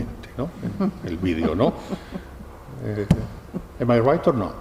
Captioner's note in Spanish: risas